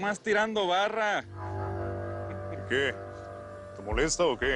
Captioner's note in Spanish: Ríe